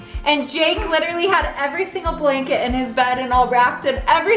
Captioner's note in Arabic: none